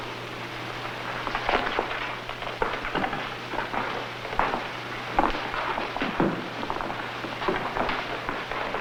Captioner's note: footsteps